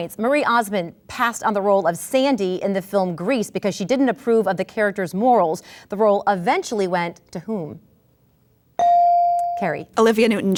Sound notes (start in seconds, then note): 8.8 ding